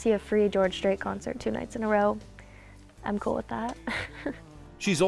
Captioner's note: laughs